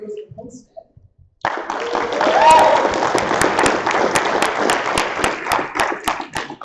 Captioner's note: applause